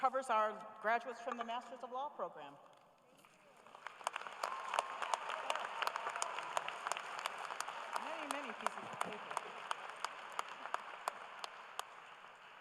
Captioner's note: applause